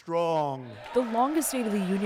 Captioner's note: cheering